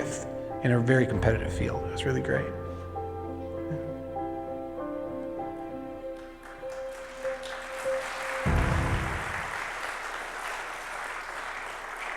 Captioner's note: applause